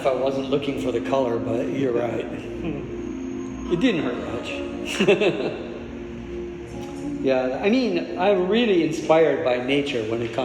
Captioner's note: laughs